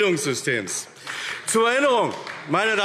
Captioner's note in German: Beifall AfD